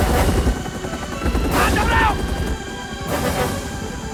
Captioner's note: Shouting In Korean